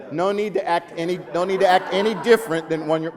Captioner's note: laughing